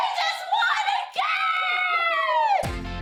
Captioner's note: both yell; upbeat music plays